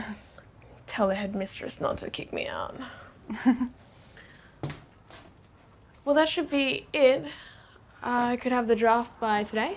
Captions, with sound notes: Tell the headmistress not to kick me out. (chuckling) well, that should be it. I could have the draft by today.